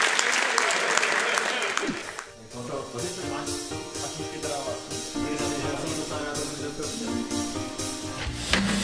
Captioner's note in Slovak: Potlesk